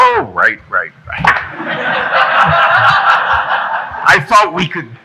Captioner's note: audience laughing